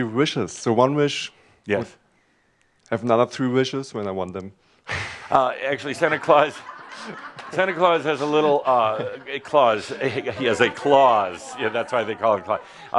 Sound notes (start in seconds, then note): 5.3 laughter